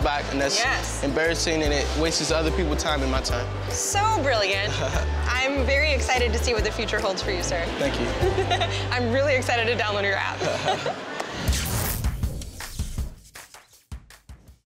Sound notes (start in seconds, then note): 4.6 laughs; 8.2 laughs; 10.3 both laughing; 11.4 electricity buzzing; 11.7 upbeat music